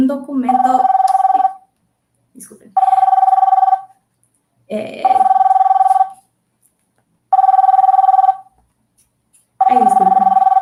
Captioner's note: sonido de teléfono